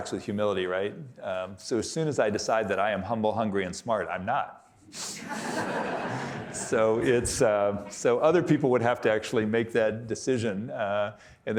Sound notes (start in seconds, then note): 5.1 audience laughing